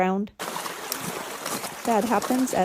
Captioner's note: water splashes